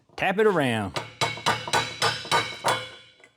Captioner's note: clanging